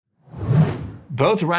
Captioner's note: air whooshing